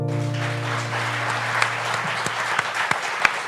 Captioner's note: applause